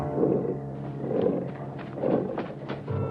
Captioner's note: growling